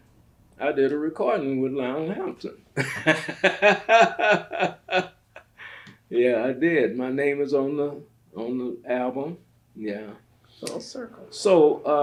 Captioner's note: laughs